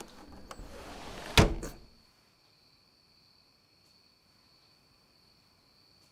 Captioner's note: door thuds; door whooshing